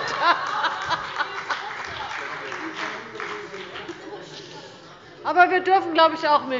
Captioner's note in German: Heiterkeit und Beifall bei der SPD, dem BÜNDNIS 90/DIE GRÜNEN und der LINKEN